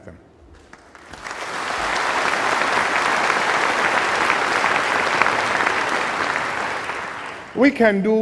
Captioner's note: applause